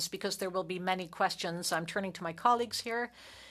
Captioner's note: speaking French